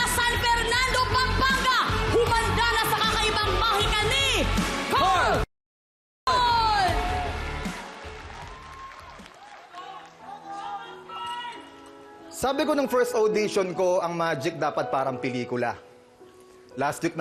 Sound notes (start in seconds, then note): 10.1 crowd cheering